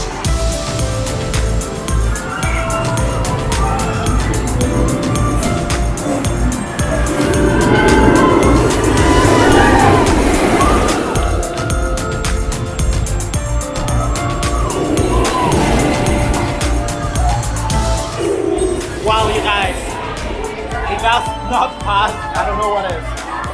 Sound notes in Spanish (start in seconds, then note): 0.2 la música se vuelve más enérgica; 9.2 carcajadas